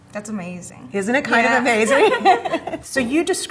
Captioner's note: laughs